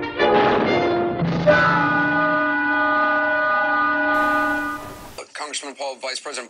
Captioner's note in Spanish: dibujos animados gritando